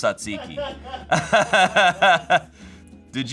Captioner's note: everyone laughs